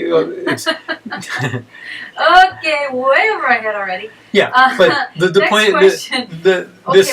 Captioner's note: laughs